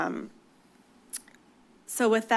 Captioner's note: clicks tongue